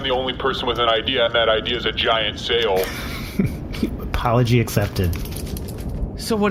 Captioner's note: sarcastically